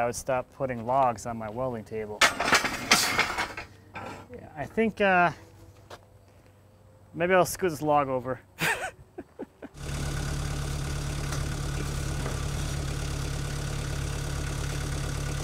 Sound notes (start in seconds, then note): 2.2 metal clashing; 8.5 laughs; 9.7 forklift engine running